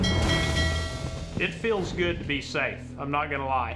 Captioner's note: rings bell